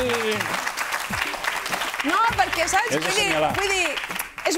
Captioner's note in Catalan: aplaudiments